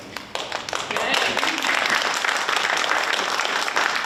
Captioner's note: audience applauds